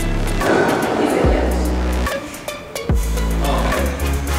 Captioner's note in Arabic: موسيقى مبهجة; ثرثرة غير مسموع